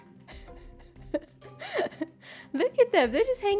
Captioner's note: laughs